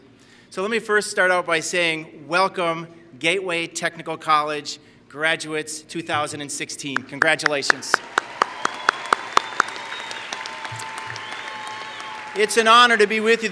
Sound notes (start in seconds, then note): 7.2 applause